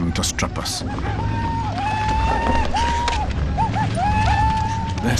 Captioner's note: Indians shouting